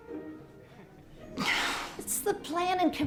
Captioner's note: sighs